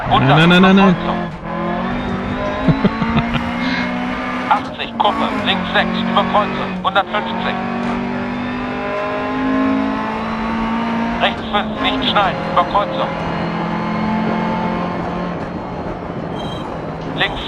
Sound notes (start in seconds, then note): 2.4 laughs; 4.0 engine sounds and co-pilot's instructions